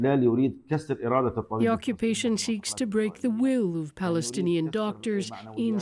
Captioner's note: speaking alternate language